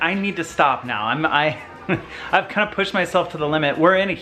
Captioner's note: laughs